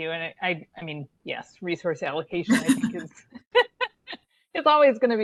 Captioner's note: laughs